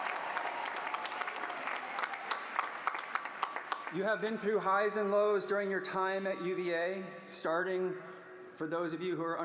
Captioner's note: applause